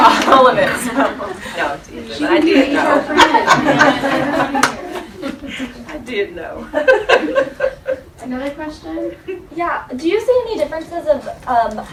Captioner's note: indistinct chatter; laughter